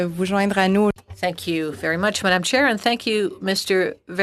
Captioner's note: speaking FRENCH